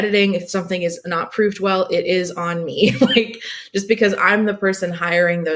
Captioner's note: laughing